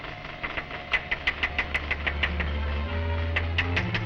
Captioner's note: glass tapping